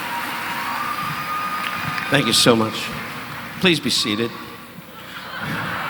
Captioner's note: audience member whistling